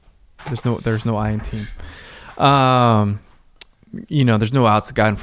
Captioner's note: chuckles